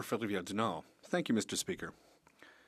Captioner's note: speaking French